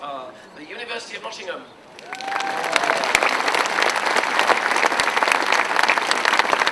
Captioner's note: applause